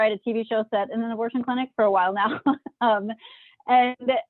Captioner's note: chuckles